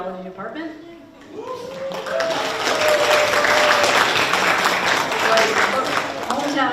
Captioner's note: people cheering; people applauding